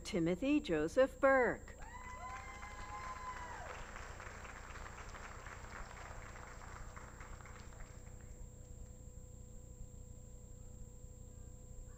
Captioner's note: applause